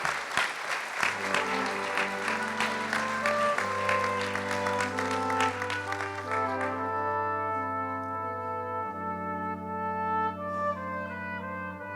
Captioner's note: applause